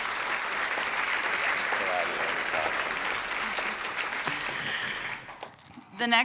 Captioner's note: applause